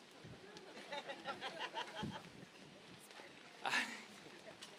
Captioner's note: audience laughing